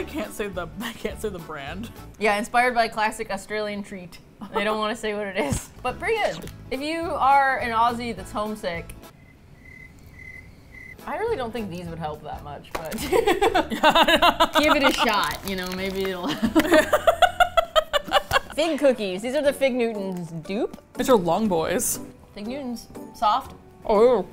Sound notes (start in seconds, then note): 4.0 laughs; 9.1 crickets; 13.3 both laugh